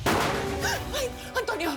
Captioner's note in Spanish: Disparo